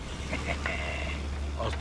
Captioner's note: Nash chuckles